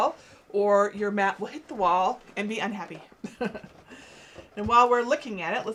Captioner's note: laughs